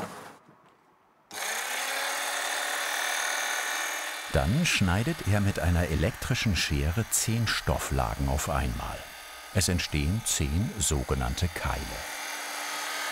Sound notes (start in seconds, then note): 1.5 whirring